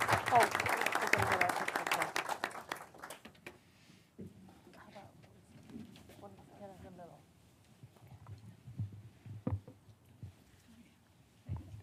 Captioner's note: applause